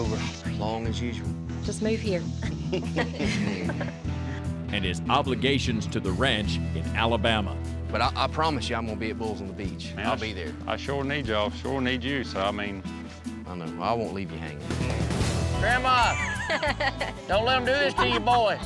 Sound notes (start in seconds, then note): 2.4 chuckling